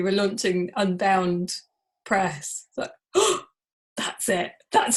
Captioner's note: gasps